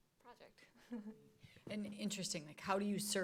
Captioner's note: laughs